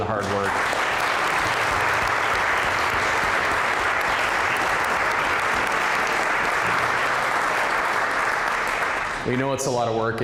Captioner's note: applause